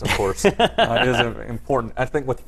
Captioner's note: laugh